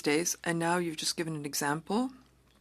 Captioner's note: speaking French